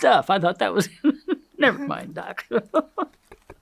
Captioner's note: laughs